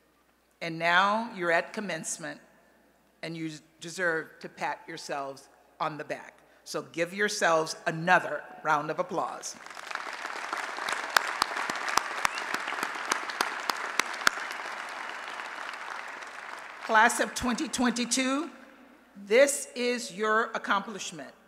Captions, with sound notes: And now, you're at commencement. And you deserve to pat yourselves on the back. So, give yourselves another round of applause. [ Applause ] Class of 2022, this is your accomplishment.